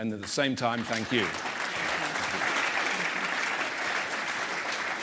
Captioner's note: applause